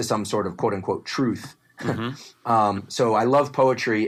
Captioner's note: laugh